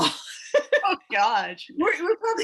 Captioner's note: laughs